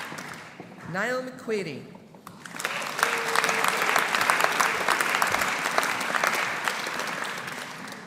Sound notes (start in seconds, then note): 2.3 audience applauding